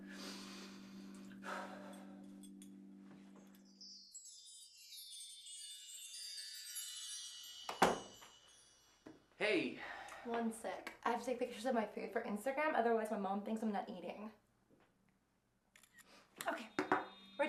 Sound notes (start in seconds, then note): 0.0 sighing; 3.7 magical chiming; 7.8 knocking; 15.5 clicking